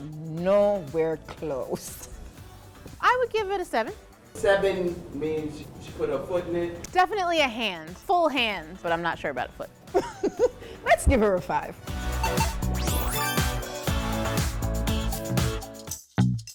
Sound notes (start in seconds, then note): 9.9 laughs; 12.2 digital pinging; 13.8 uptempo disco music